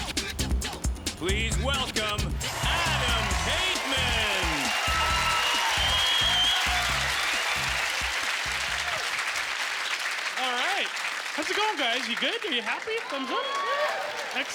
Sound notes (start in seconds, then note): 7.6 cheering